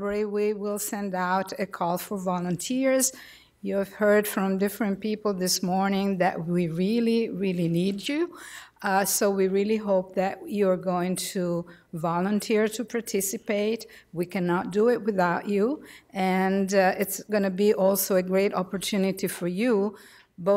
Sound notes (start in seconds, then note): none